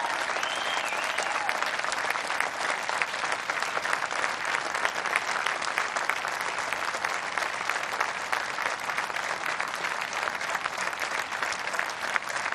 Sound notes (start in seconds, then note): 1.8 applause